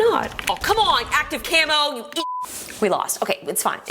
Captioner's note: beep